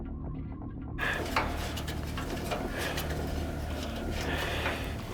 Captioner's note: breathing Jan - music